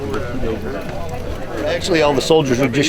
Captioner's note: men chatting indistinctly